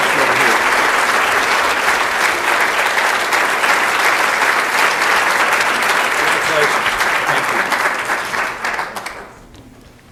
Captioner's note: applause